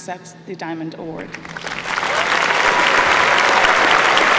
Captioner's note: applause